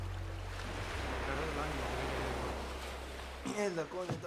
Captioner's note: murmurs